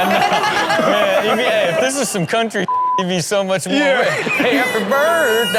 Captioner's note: waiter singing and laughing; beep